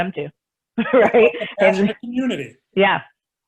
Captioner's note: laughs